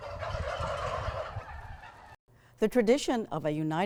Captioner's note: turkeys gobbling